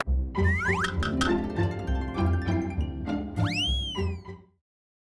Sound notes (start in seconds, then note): 0.9 playful whistles; 3.0 playful piano music